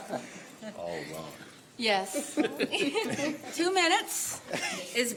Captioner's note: laughter